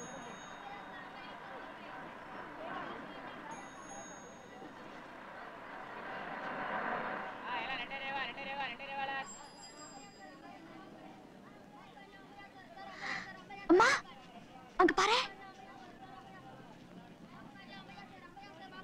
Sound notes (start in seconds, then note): 7.5 indistinct Voices